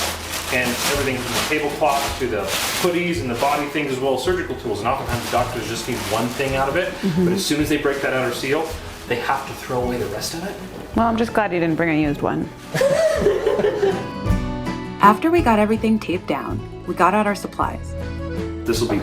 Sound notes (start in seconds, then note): 12.7 laugh